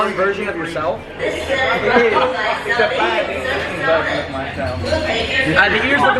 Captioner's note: laughter